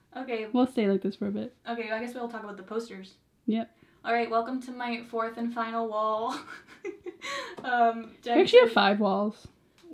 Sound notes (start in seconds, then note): 6.3 laughs